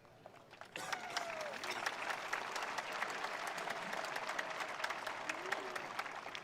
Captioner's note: attendees applauding; attendees cheering